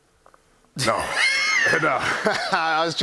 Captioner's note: laughter